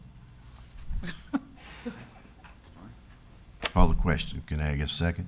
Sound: laughs

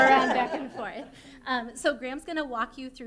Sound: laughter

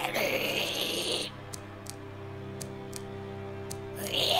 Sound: tiptoe

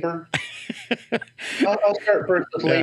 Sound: laughs

